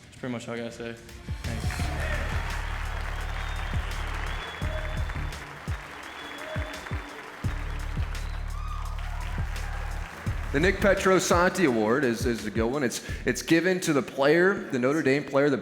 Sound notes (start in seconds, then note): 1.4 applause